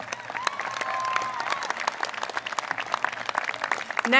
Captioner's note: applause